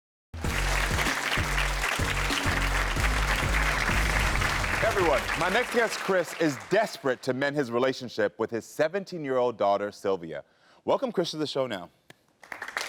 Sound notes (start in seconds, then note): 0.3 upbeat music; 2.4 audience applauding; 3.4 upbeat music; 12.4 audience applauding